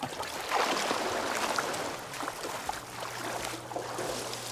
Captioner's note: water splashes